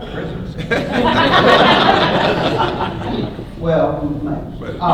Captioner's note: laughter